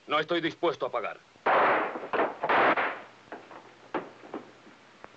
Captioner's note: gun blasting